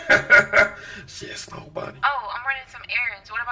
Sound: whispering

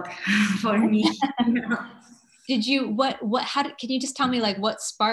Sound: laughter

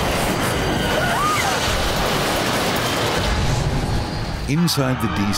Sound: woman screams; glass shattering

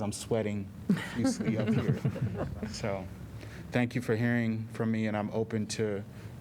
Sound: laughter

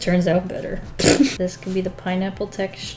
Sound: laughs

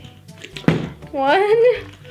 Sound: bottle landing

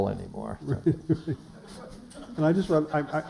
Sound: laughter

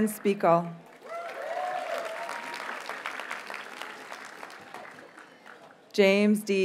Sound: audience cheers and applauds

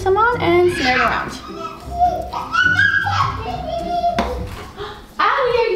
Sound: quirky music; screaming

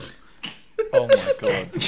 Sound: group awkwardly chuckling

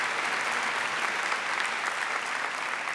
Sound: applause

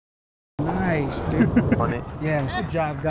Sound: laughing

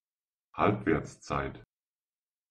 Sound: fast Pronunciation

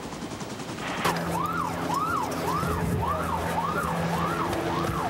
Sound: siren

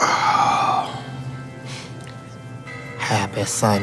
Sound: organ music playing; woman sighing

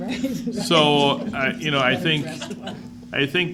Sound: School Board laughs

